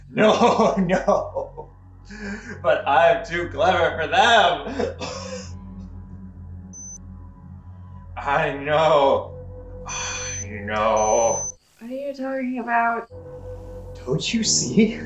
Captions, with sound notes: No, no! *Inhales deeply* But I'm too clever for them! *Coughs* I know... I know! What are you talking about? Don't you see?